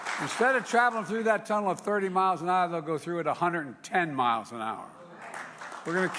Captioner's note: applause